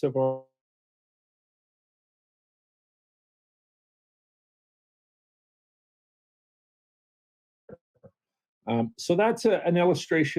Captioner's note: no sound